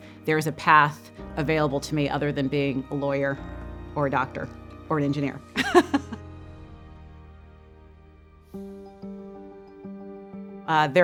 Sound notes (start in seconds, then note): 5.6 chuckles; 6.7 thoughtful music ends; 8.7 bright music starts